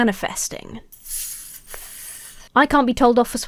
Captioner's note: hissing